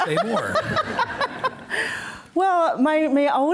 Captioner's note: laughing